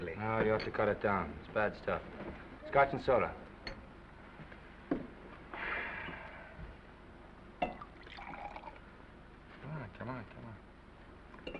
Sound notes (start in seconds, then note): 5.6 Oliver sighs; 7.9 scotch sloshing